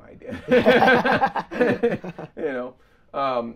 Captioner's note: both laughing